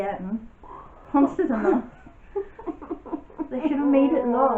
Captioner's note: sobbing sounds